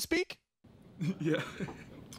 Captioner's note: laughing